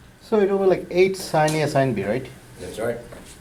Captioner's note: voiceover